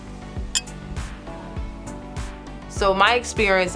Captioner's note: glasses tinkling